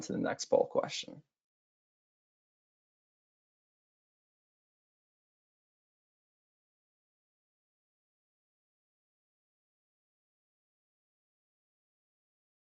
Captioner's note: silence